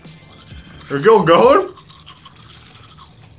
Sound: everyone cringes momentarily at the teeth-brushing sound

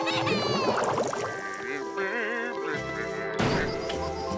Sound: screaming; humming

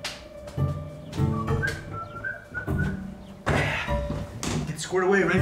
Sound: Alex whistles

